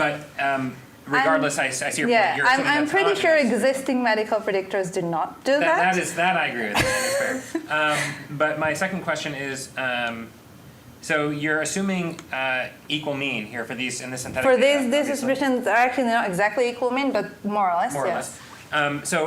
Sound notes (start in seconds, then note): 6.7 presenter laughing